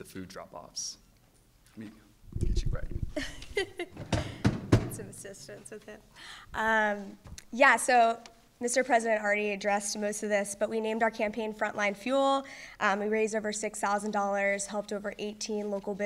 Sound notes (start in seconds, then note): 3.2 laughs